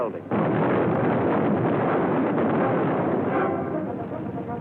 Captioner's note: explosion